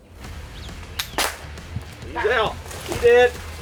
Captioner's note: weapon blasts